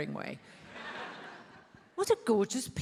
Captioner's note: attendees laughs